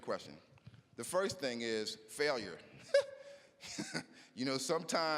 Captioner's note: laughing